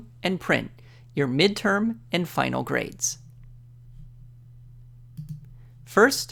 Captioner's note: click